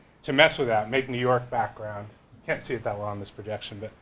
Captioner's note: none